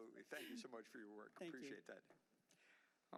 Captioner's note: laughter